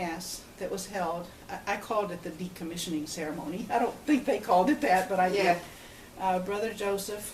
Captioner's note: laughs